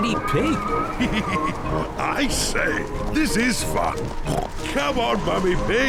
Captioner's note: chuckles